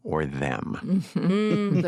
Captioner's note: chuckles